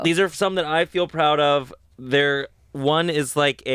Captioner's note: none